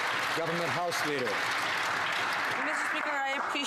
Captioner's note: some Applause